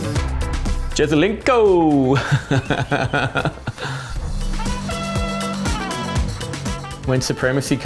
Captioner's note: laughs